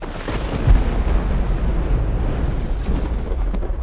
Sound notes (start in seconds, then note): 0.0 thunder